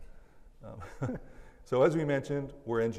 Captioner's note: laugh